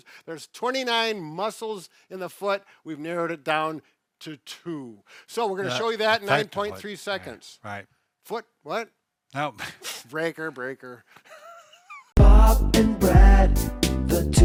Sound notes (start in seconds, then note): 9.8 laughs